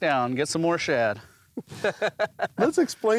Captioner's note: laughing